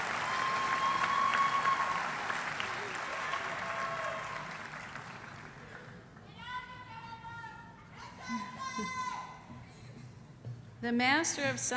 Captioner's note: applause